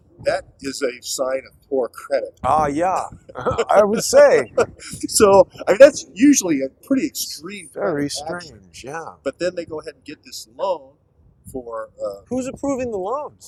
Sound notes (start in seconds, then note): 3.3 laughter